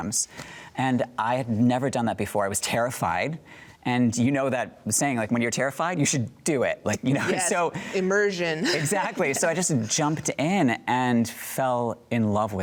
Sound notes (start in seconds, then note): 8.4 laughs